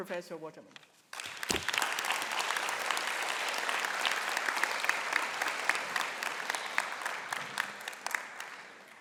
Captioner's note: clapping